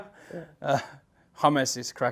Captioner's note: chuckles